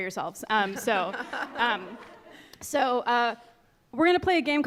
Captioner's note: scattered laughing